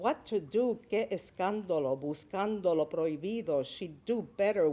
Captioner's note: speaking Spanish